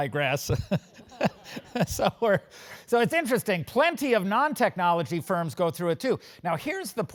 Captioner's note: laugh